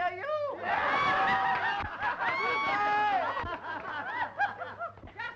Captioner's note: laughing and cheering